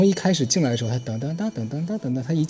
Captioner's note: imitates wind chime sound